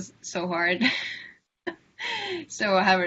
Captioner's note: laughter